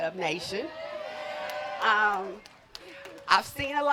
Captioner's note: wooting